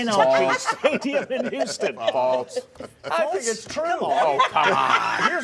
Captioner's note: laughter